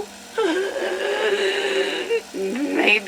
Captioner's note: wheezes